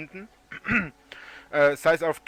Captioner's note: clears throat